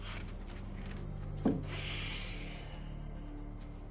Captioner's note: sighing